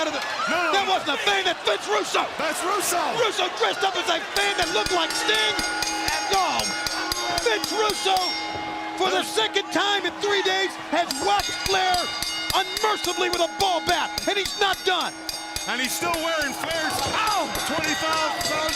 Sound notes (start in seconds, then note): 10.9 bell ringing